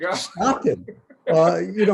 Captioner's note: laughs